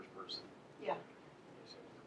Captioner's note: voiceover